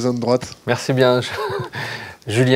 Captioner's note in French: rires